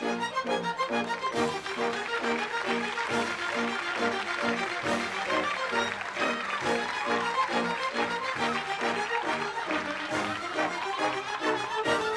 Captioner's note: applause